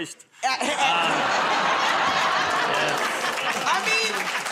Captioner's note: laughter